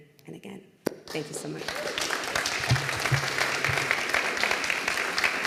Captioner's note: applause